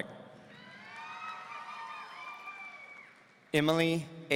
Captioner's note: audience cheering